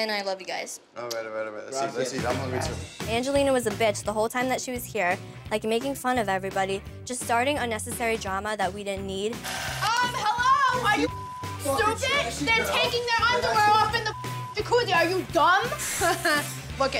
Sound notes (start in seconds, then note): 10.1 yelling; 11.0 beep; 13.8 beep